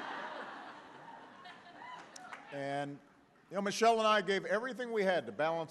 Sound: laughter

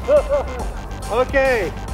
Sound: laughs

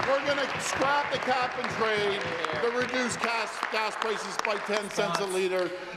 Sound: applause

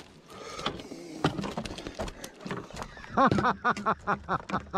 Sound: fish flapping; laughter

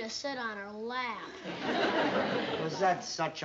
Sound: laughter

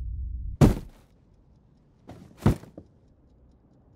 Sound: body thuds

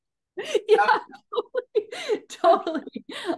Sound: laughs

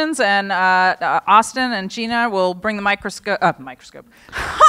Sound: laughter

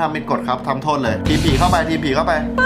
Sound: radio

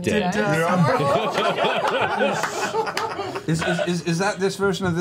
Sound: all laugh

